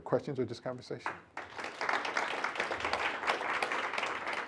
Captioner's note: applause